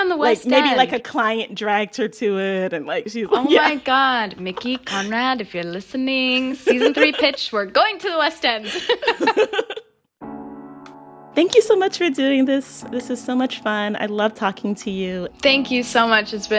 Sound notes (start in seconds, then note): 3.3 laughter; 8.6 laughter